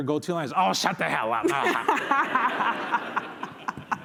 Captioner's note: laughter